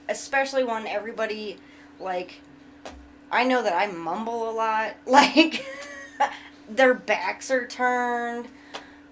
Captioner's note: chuckles